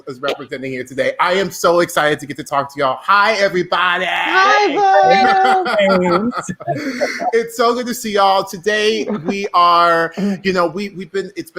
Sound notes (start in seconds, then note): 3.9 laughing